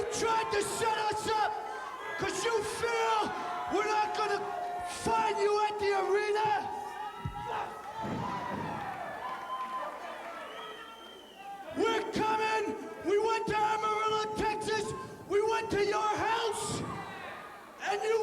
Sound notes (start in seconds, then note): 5.4 crowd cheering